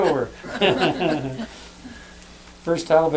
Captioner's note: laughter